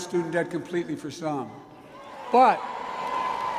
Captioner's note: applause